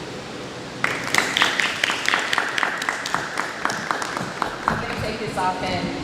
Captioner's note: audience clapping